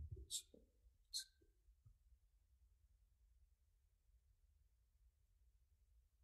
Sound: committee members murmur

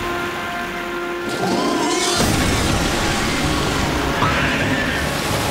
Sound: screeching

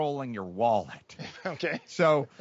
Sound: chuckles

